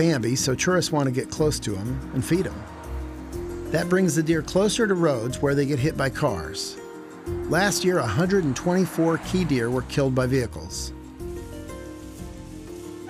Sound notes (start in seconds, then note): none